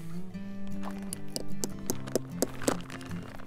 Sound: hammer thumping

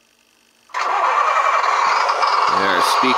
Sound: engine revving

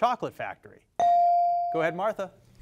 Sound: device dings

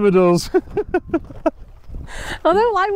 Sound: laughter

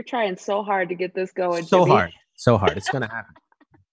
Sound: laughs

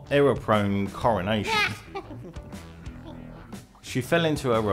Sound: Napoleon sniggers

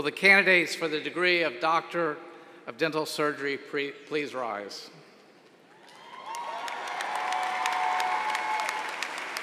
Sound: applause

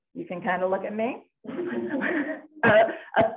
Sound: laughter

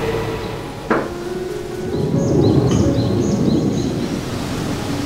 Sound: birds chirping

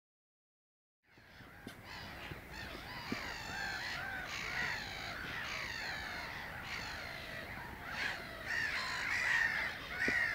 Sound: sound of birds

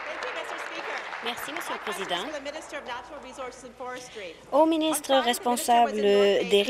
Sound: applause; cheers

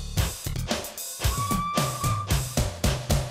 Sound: toot-Toot!

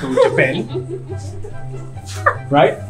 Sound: giggles

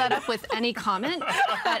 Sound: everyone laughing

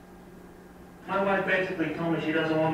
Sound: voiceover

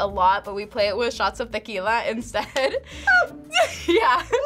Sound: laughs

